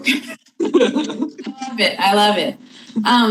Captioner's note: everyone laugh